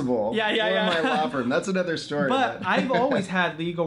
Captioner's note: laughing